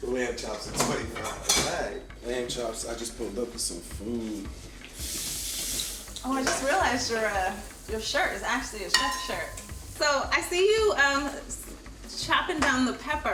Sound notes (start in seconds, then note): 4.7 water running